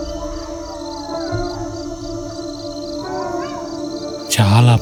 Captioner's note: jackals howling